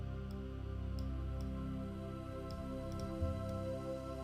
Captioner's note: mouse clicking continues